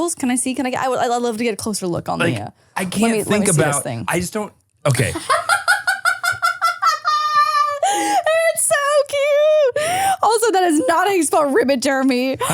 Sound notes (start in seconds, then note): 5.2 laughs